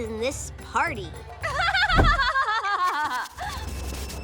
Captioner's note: laughing